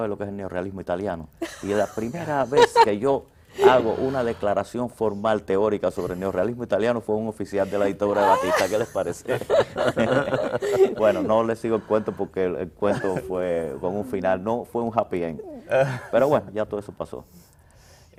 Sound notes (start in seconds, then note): 10.1 risas